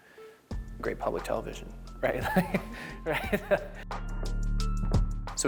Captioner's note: laughs